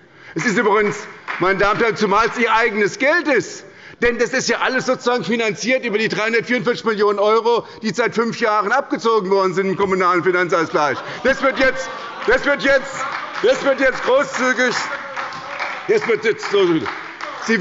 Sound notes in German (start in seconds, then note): 0.4 Beifall bei Abgeordneten der SPD; 10.8 Beifall bei der SPD – Zurufe von der CDU